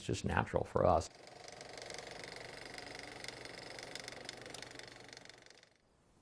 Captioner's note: background - Engine Propellors